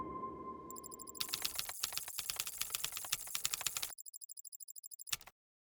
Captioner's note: keyboard clacking